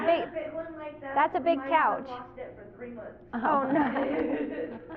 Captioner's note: laughter